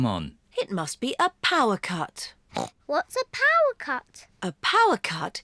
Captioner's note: grunts